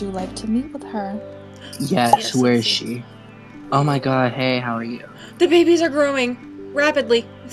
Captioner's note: pop